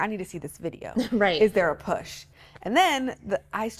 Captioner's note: laughs